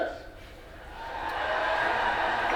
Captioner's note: audience loudly cheering; audience cheers loudly